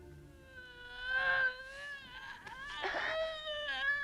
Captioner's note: Hundra groaning